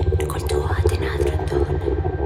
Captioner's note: whispering